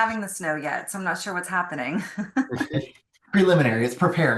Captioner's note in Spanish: risas